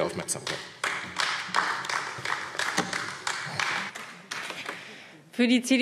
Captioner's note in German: Beifall AfD